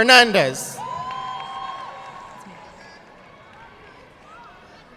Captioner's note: audience clapping